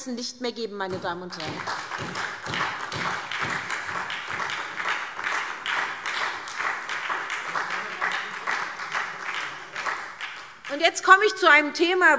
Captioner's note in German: Beifall SPD und Freie Demokraten